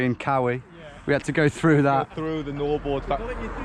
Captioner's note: man laughs